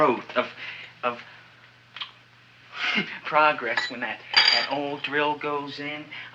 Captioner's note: chuckles